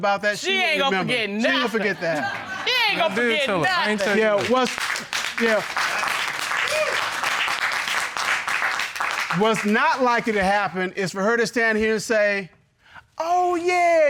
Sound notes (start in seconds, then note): 5.8 audience applauds